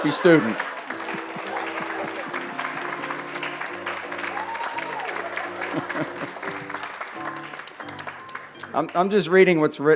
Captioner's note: applause